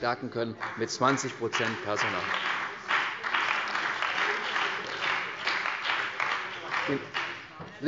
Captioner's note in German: Beifall bei der CDU und dem BÜNDNIS 90/DIE GRÜNEN